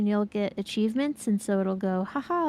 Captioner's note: none